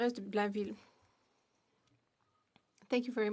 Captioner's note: speaking French